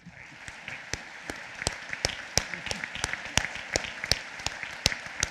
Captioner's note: applause